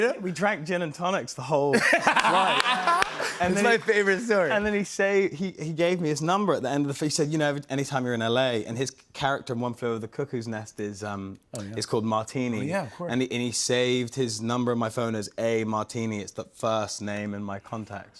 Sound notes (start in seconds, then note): 1.7 laughter